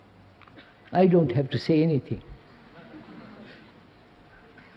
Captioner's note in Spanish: Risas